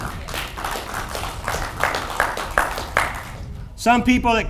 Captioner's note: audience applauds